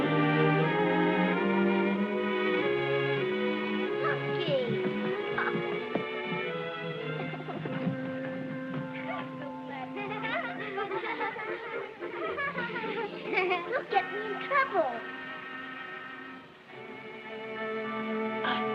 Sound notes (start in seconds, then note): 4.0 laughing; 9.8 children giggling